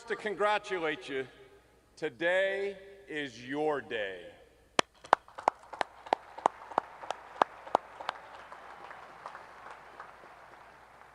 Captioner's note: cheering